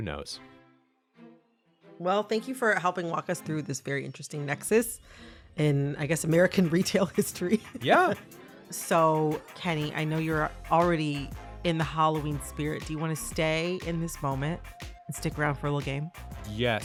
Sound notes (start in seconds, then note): 7.2 laughter